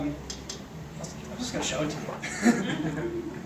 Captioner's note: laughs